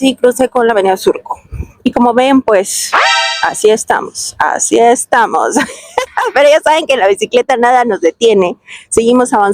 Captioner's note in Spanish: risas